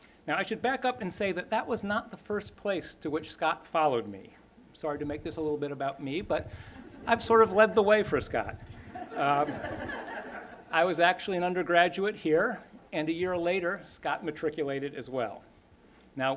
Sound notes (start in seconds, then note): 8.8 laughter